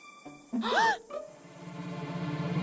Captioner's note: Heather and Gwen Gasp